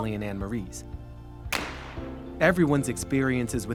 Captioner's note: shotgun banging